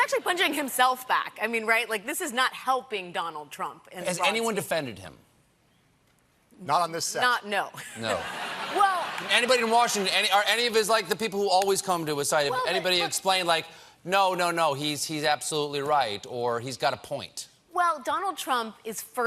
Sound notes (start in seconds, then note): 7.8 laughter